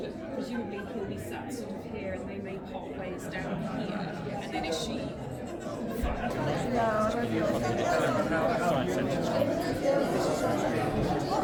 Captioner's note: crowd chattering